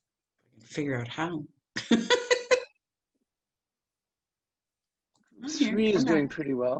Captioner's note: laughs